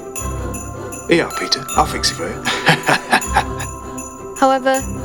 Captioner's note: laughs